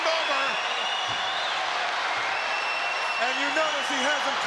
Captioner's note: crowd yelling